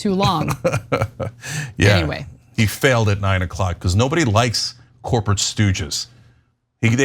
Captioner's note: laugh